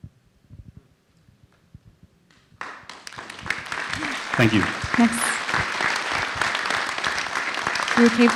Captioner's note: applause